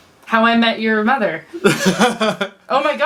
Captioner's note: laughs